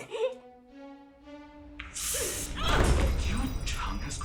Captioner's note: crying; groaning